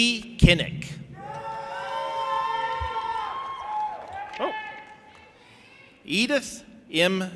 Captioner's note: audience applauding and cheering